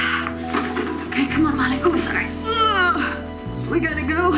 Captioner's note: sighing; grunts